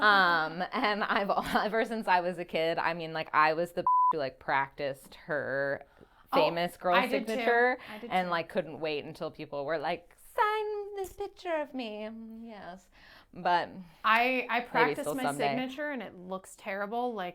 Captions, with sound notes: (laughing) And ever since I was a kid, I mean like I was the (beep) who like practiced her famous girl's signature. Oh, I did too. And like couldn't wait until people were like, "Sign this picture of me." Yes, but maybe still someday. I practiced my signature and it looks terrible.